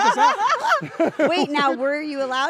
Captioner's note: laugh